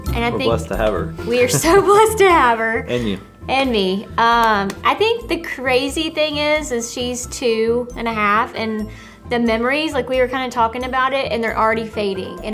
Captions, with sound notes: And I think-- - We're blessed to have her. - We are so (laughs) blessed to have her. - And you. - And me. - I think the crazy thing is thing is, is she's two and a half, and the memories, like we were kinda talking about it, and they are already fading.